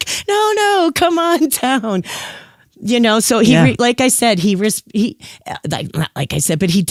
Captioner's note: guffaw